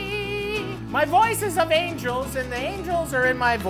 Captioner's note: in normal voice